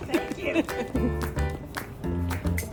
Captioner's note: laughs